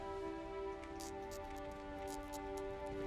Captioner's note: quill tip squeaking